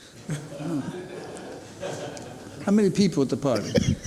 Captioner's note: spectators laugh